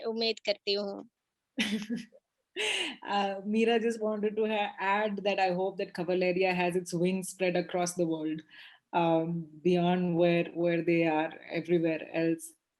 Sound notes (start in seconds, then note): 1.7 laughs